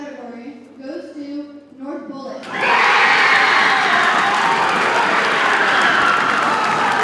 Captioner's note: audience cheers and applauds